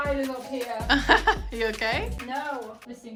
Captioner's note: laughing